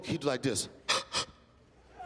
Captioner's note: gasps